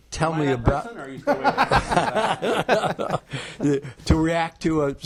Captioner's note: attendees laughing